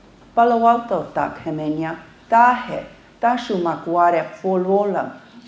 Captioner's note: speaking foreign language